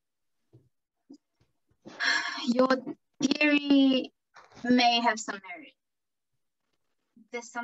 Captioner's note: sighs